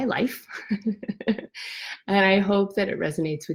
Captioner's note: laughs